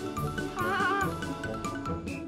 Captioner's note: hahaha~